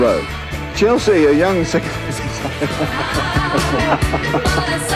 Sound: chuckles

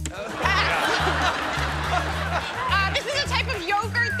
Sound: laughter

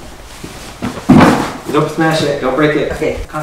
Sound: box clatters

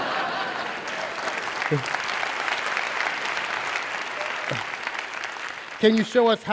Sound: laughter; applause

